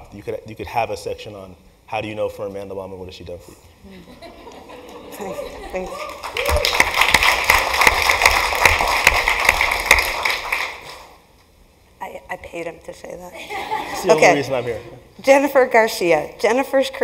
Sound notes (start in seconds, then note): 5.9 applause; 6.6 laugh; 13.4 laugh